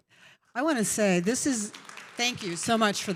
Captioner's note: applause